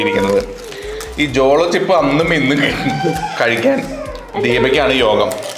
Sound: baby crying

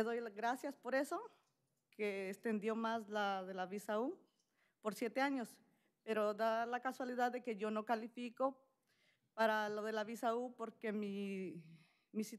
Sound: speaking spanish

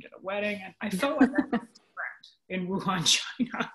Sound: audio warps

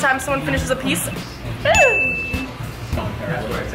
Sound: ringing sound

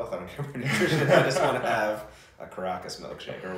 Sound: laughs

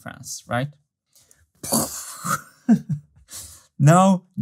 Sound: imitates explosion sound; chuckles

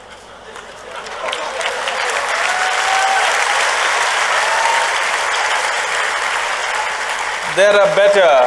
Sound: cheering/Applause

